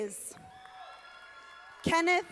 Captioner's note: audience applauding